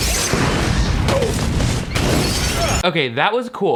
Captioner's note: electricity buzzing; fire booming